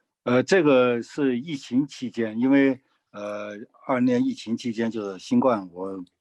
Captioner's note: speaking in foreign language